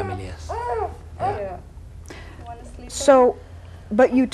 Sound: continues crying

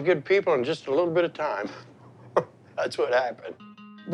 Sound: chuckles

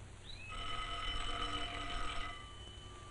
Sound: doorbell rings

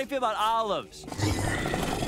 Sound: growling

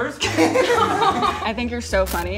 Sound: people laughing

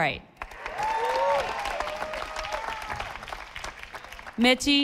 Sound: audience applauding

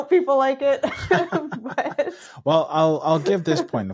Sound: laughing

